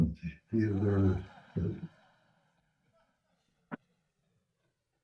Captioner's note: audience chuckling